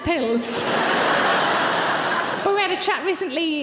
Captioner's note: audience laughs